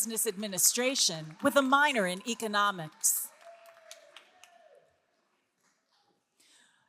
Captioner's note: person cheering